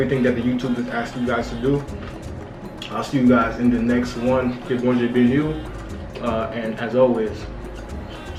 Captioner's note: speaking Kreyol